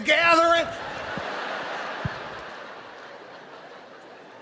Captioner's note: audience laughing